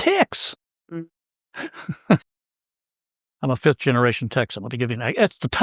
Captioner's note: laugh